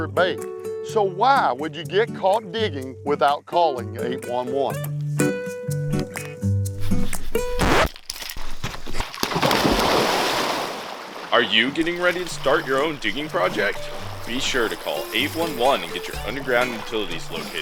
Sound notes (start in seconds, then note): 4.5 charming music; 7.4 record scratch; 8.8 loud splash